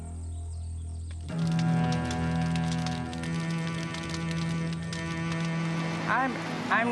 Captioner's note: flames crackling; somber music